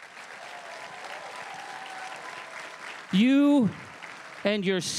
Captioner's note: crowd cheering and applauding